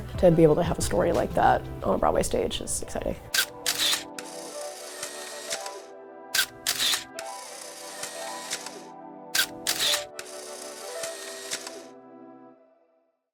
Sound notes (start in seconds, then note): 3.3 camera shutter clicks; 3.6 film reel spins; 6.3 camera shutter clicks; 6.4 film reel spins; 9.3 camera shutter clicks; 9.3 film reel spins